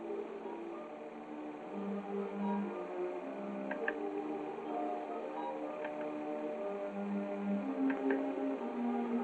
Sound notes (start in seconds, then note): 5.8 projector clicking